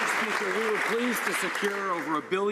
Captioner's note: some Applause